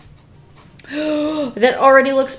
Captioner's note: gasps